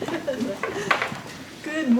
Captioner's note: laughter